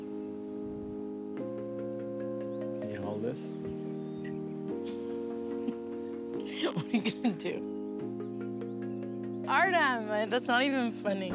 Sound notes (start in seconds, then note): 6.4 laugh